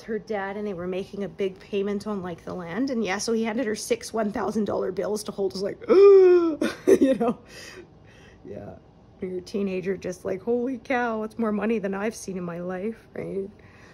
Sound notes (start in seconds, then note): 7.4 gasp